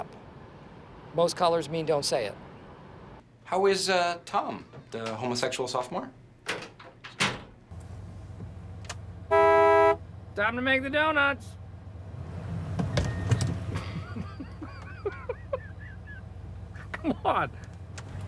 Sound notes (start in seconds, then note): 9.2 car horn blares; 13.7 chuckles